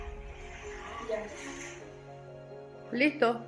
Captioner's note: sighing